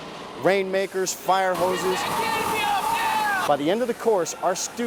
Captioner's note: people yelling